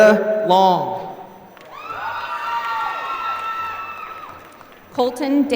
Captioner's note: applause